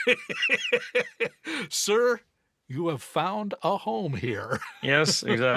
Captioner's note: laughs